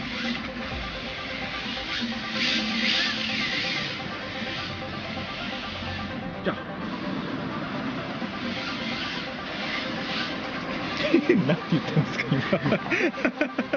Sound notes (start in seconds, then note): 10.9 laughs